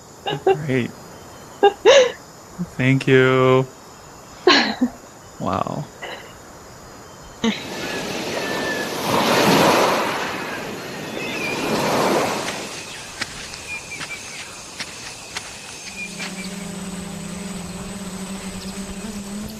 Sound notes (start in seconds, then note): 3.0 birds chirping; 3.0 waves gushing; 7.7 footsteps; 11.1 insects buzzing